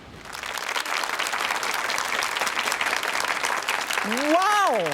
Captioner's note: audience applauds